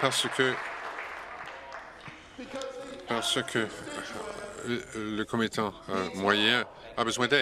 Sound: applause

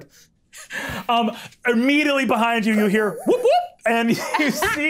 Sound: imitating the siren

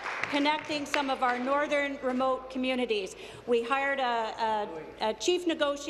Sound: applause

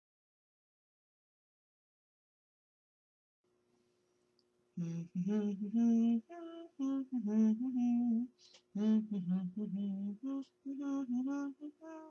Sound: humming song

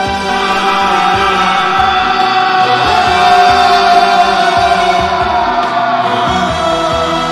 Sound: screaming

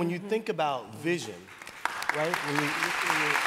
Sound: applause

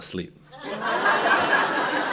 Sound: laughter

